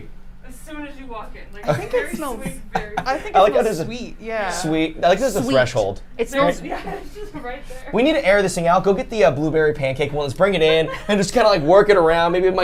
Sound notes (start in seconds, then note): 1.6 laughs